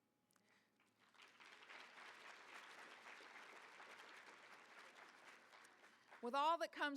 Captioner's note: applause